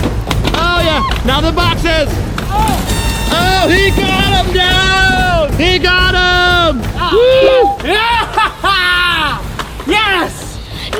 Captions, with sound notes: Ah yeah, now the boxes! Oh he's got 'em down! He got'em! (cheering) (laughing) - Yes!